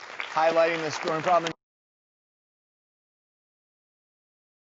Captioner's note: applause